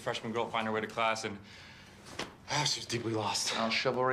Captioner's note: sigh